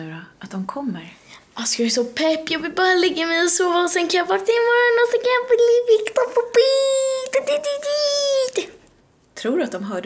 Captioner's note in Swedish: Snabbt tal